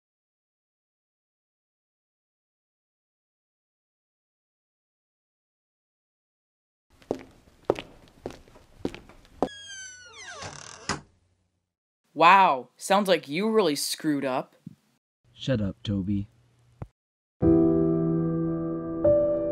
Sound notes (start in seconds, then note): 7.0 walking sound; 9.4 door closing sound; 17.4 sad music plays